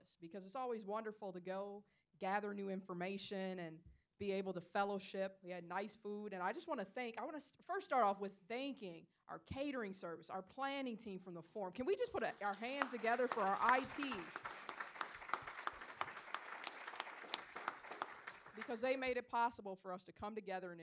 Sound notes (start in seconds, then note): 14.1 audience applauding